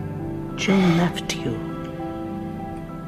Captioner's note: voiceover